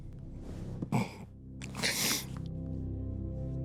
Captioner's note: emotional grunt an inhale